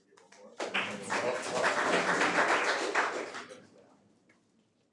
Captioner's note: audience applauding